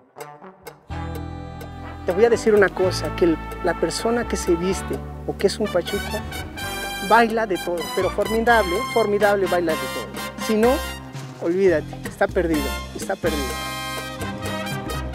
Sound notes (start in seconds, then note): 0.1 Latin jazz music; 2.1 speaking foreign language